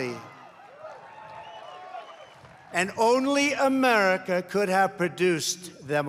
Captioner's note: applause